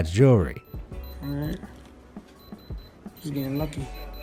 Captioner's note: machine beeping